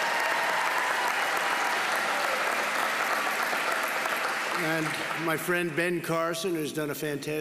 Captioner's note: applause